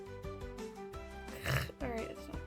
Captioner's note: makes a dismayed noise at back of throat